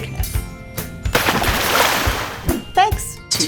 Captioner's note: water splashing